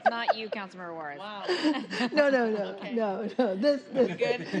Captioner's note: laughter